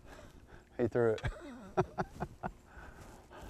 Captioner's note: laughter